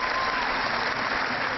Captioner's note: cheering